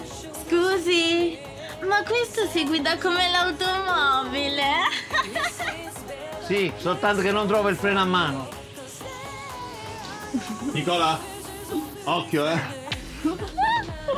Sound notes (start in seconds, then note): 4.4 laughing